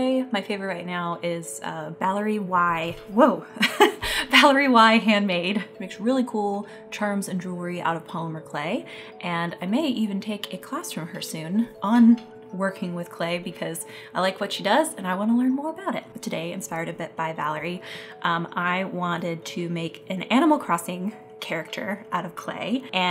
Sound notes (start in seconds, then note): 3.8 laughs